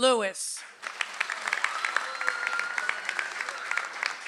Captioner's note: audience applauds